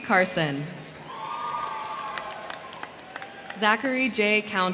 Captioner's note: crowd cheering; crowd clapping